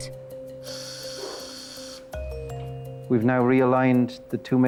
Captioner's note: drill whirring